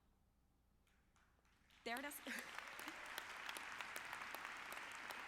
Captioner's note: audience clapping